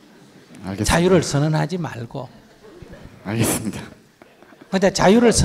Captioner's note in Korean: 청중 웃음; 질문자 웃음